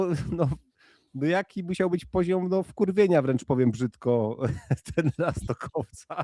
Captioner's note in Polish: śmiech